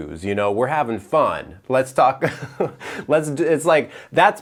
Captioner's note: chuckles